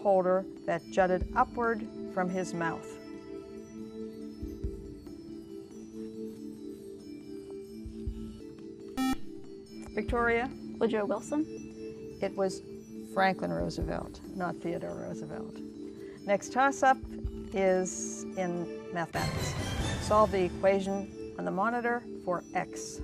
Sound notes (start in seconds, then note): 9.0 buzzer